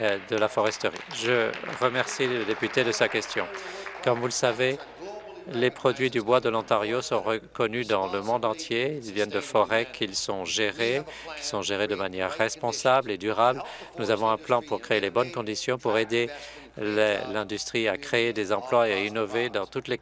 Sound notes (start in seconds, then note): 4.7 applause